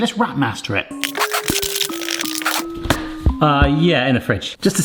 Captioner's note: wrap crinkling; soft music